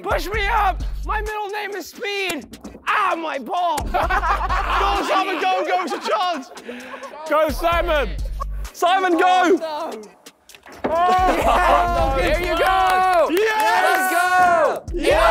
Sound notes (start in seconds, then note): 3.8 contestants laughing; 10.5 indistinct chattering; 15.1 clapping and cheering